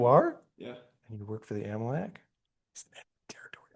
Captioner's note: whispering